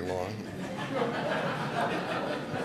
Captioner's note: laughter